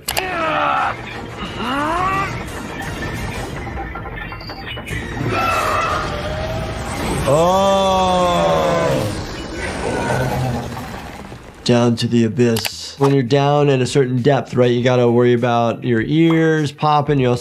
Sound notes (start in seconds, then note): 0.3 Invincible roaring; 1.3 chain rattling; 5.2 Depth Dweller roaring; 7.0 chain rattling; 9.0 Depth Dweller warbling; 11.0 debris scattering